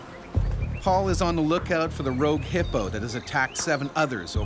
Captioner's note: voiceover